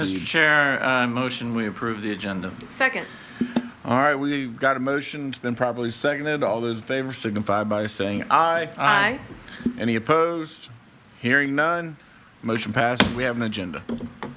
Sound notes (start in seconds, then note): 13.0 mallet thudding